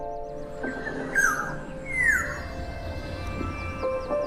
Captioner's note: chirping